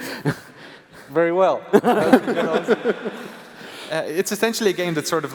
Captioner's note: laughs